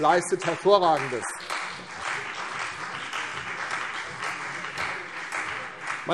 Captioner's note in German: Beifall CDU und BÜNDNIS 90/DIE GRÜNEN